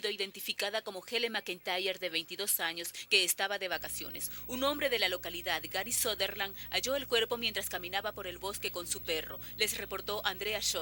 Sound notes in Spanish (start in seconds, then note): none